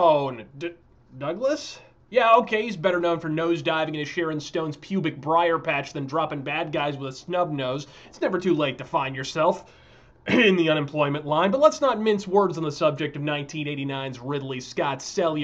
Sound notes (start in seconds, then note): 10.3 ahem